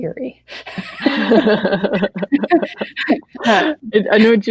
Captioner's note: laughing